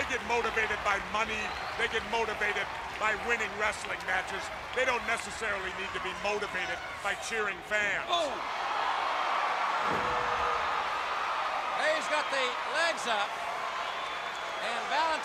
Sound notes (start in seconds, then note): 8.9 crowd cheering